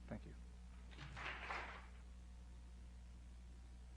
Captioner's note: applause